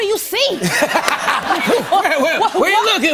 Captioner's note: laughter